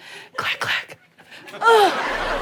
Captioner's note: audience cheers